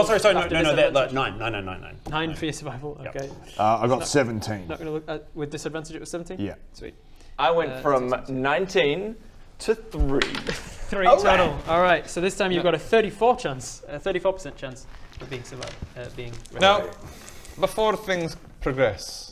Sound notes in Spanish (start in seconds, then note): 8.3 murmura matemáticas